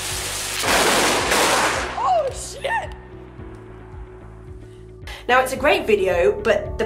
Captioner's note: explosion sound